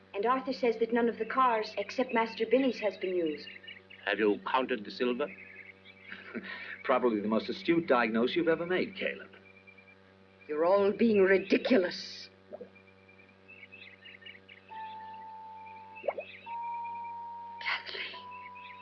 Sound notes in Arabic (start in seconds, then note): 6.0 يضحك; 12.5 فقاعات الماء